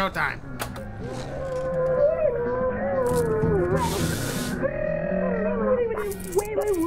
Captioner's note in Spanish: Ruidos absolutamente absurdos de la televisión